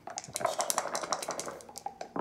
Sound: dice shaking

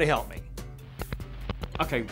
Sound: static

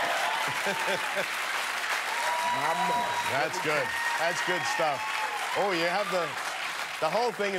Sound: cheers and applause; laughter

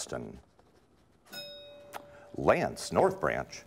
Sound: ding

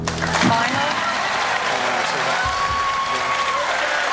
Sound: audience Applauds

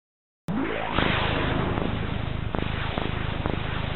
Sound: deep digital heartbeat

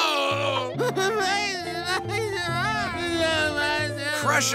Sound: sobbing

